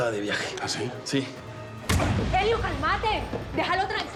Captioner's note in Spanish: puñetazo